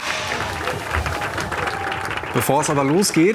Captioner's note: applause